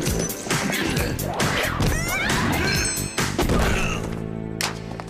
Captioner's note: fighting noises